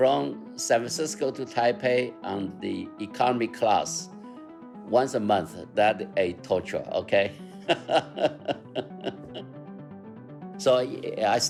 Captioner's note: laughter